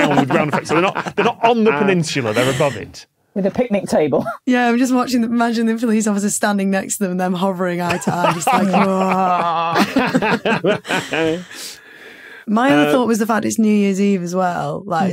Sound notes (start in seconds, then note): 7.8 laugh